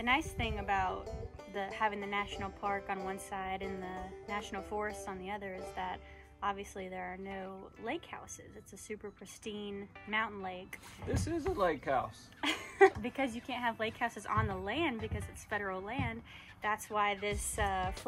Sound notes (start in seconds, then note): 12.4 laughter